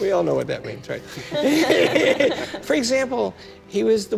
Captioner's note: laughter